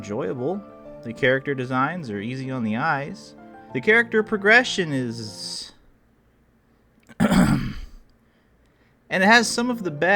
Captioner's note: clears throat